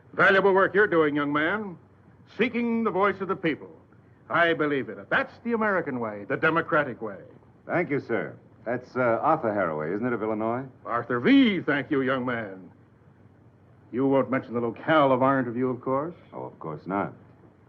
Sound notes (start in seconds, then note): none